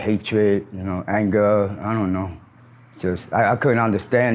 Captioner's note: bird chirps